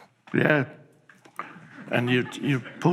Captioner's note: audience chuckles